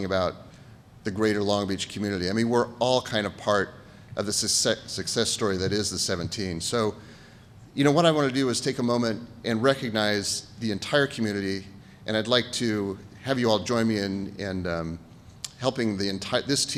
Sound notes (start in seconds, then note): none